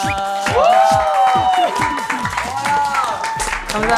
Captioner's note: applause~